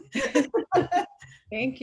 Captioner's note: laughing